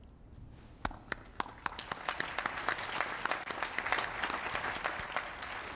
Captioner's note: applause